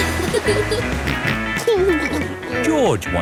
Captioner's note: snorts and giggles; laughing